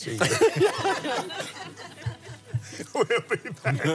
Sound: laughs

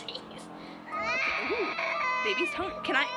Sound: Demon baby crying annoyingly; laughs

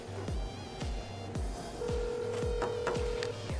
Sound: phone ringing

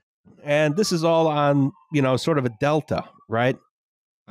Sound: sirens in background

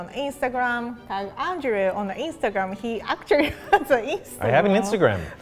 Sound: laughs

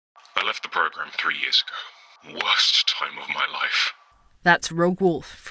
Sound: phone call

